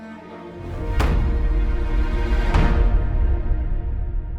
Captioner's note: gavel banging